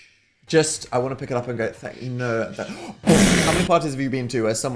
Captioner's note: imitates explosion